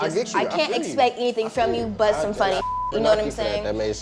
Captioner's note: beep